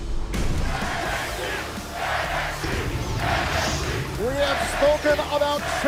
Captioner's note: fans chanting